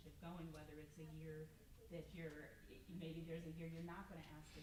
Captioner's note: stammers